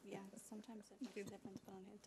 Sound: chuckles

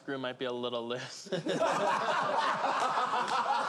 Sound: laughing

